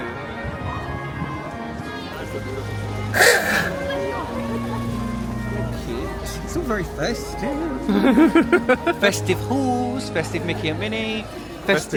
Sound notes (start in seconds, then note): 3.2 car horn rasps; 3.2 gentle festive music; 7.9 laughing